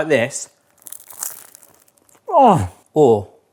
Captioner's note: baguette crunching